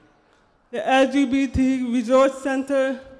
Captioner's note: none